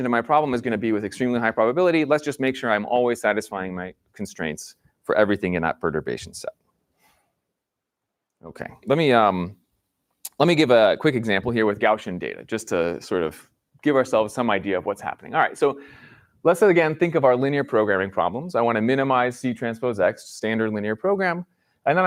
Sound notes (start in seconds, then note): none